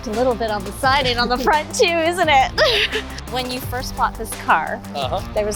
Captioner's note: laughs